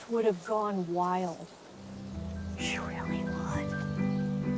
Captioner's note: whispers